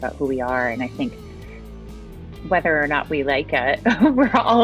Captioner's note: chuckles